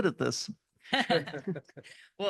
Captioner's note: laugh